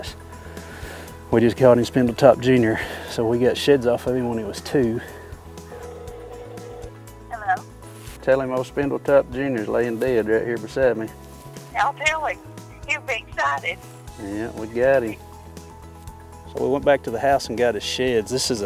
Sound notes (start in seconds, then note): 5.7 phone rings